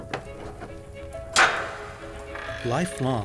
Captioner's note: door lock thudding